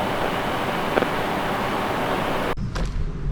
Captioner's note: brief crackle